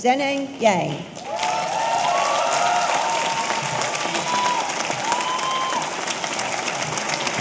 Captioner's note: audience applauding; audience cheering